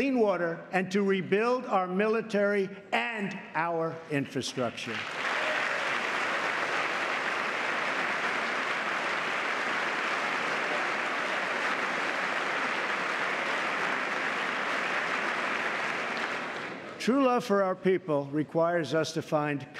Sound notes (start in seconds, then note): 4.8 applause